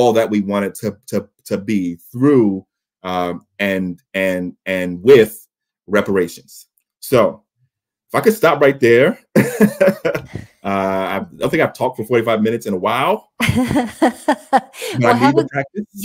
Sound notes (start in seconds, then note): 9.3 laughs